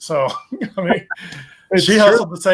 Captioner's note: both laughing